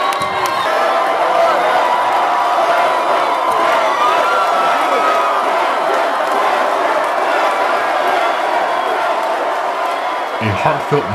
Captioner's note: crowd cheers